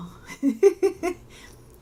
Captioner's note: laughter